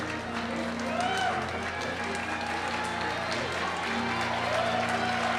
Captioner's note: cheering and applause